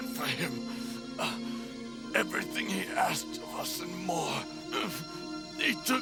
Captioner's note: grunts in pain